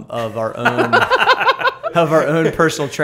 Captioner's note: laughter